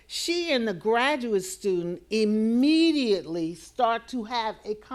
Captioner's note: none